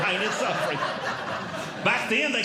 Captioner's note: audience Laughing